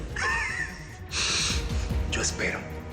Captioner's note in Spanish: Risas